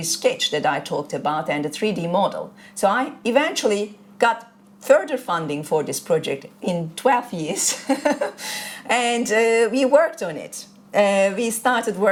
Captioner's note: laughter